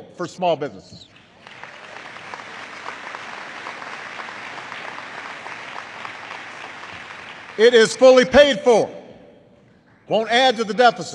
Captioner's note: applause